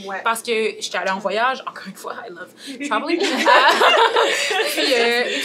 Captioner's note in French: rires